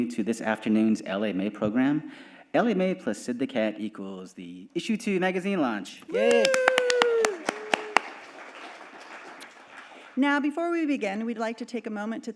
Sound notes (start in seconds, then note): 6.1 audience applauding